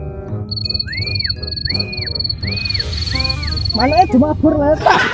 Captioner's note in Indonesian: siul